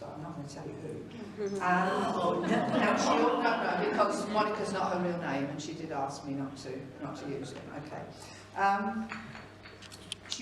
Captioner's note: audience groans